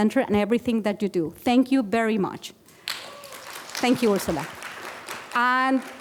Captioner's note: applause